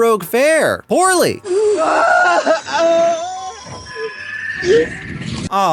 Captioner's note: screams